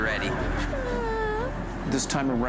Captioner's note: whimpers